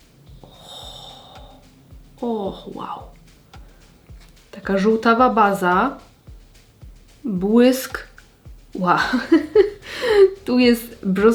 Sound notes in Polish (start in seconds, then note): 8.9 śmiech